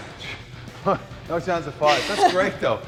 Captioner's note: Sol chuckles